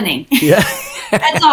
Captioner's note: both laughing